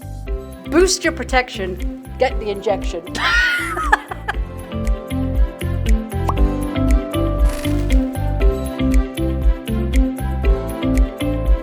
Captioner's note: giggle